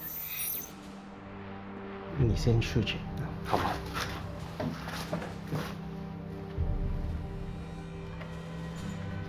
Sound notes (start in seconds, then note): 2.2 speaking Chinese